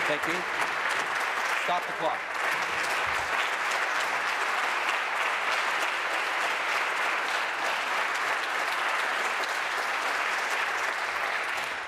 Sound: applause

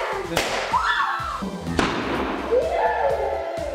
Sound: balloon pops

